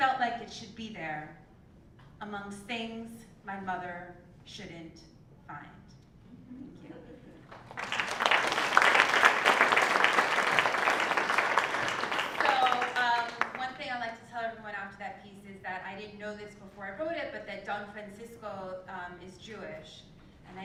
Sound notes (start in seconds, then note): 7.4 applause